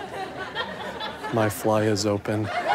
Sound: audience laughter

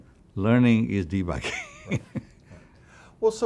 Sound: laughs

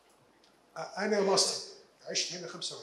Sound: speaking in foreign language

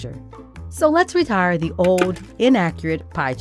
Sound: clicking

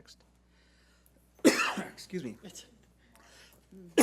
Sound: coughs

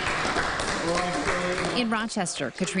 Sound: nats of clapping

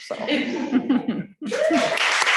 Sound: laughter; applause

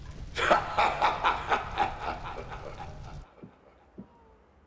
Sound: laughing

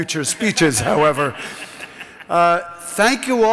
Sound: laughs

